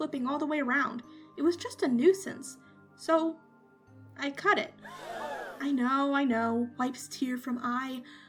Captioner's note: dramatic gasp sound effect